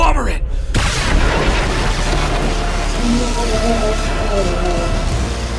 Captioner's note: lightning crackling